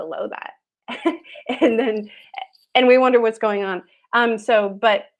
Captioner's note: laughs